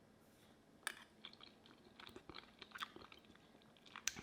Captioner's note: munching